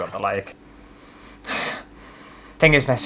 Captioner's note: sniffing